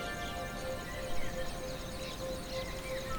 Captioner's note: birds singing